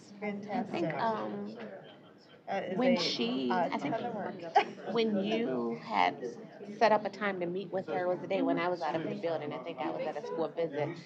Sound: off-mic chatter

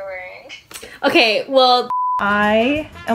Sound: program beeps

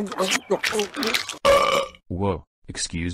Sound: funny Eating Sounds; burp

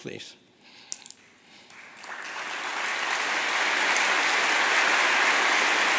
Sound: applause

